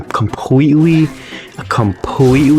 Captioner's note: inhales Oxygen